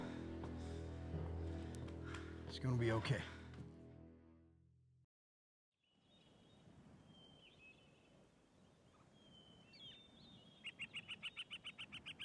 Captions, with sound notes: It's gonna be okay. (birds chirping)